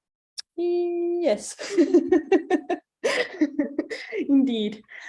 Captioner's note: chuckles